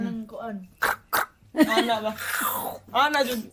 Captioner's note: mimics crunching sounds